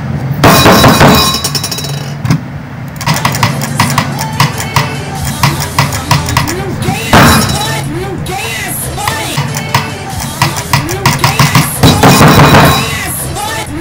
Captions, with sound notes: (slams desk) (slams desk again) Do I even have to caption this?